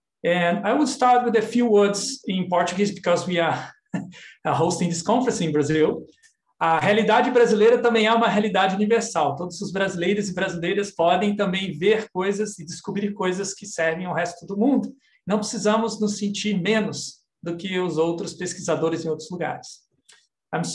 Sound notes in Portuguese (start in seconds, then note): 6.8 speaking portuguese